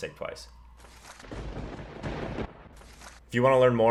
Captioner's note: thunder rumbling